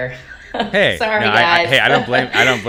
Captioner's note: chuckles